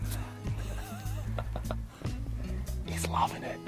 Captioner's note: man laughing